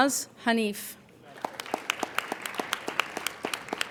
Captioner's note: applauding